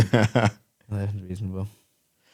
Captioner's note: laughs